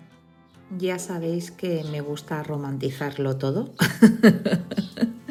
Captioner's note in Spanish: risas